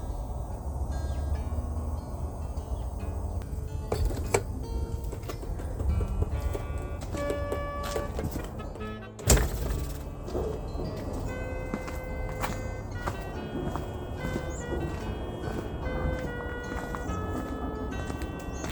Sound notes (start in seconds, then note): 0.1 happy music; 1.3 birds chirping; 3.9 latch opens; 7.2 snow crunching; 9.0 gate closes; 10.1 footsteps